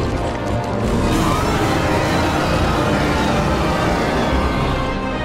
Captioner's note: roars